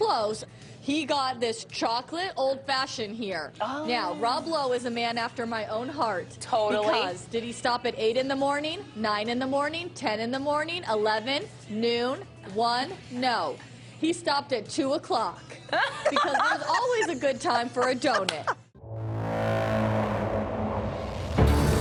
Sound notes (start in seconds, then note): 15.5 laughs; 18.8 ominous music